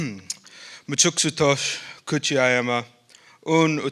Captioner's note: speaking northern sierra miwok